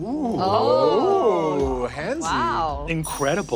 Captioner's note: players oohing